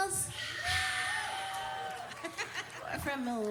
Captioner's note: crowd cheering